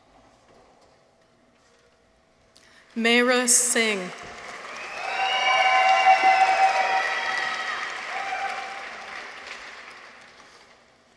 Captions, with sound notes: Maara Singh. -(people cheer) -(audience applauds)